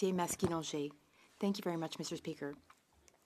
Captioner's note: speaking French